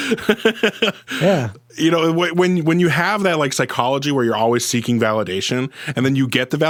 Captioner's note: laughs